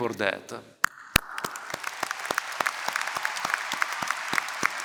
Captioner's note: applause